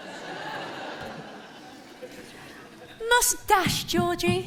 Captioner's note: Sam runs upstairs. One stair creaks again